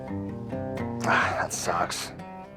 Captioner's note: sighs